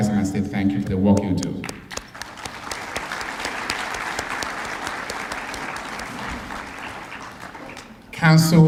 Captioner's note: applause